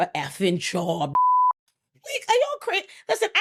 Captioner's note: beep